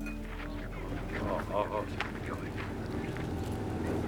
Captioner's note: muttering softly; motorcycle engines rumbling